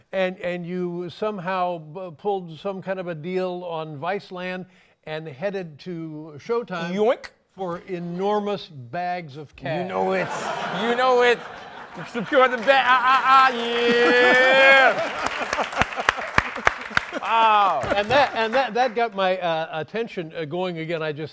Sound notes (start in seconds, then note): 10.3 laughter; 14.4 applause